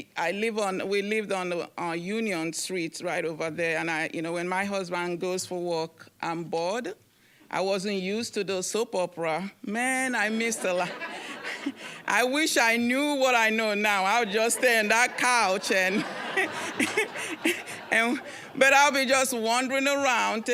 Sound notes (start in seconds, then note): 10.3 audience laughing; 16.1 all laughing